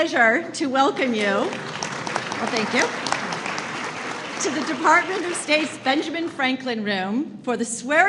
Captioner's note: applause